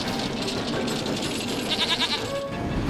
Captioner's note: bleats